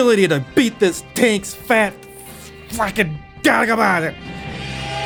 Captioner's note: unintellgable anger noises